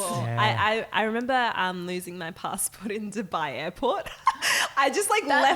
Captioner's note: laughing